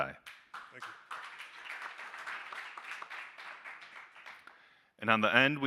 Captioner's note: audience applauding